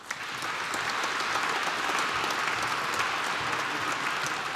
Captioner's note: applause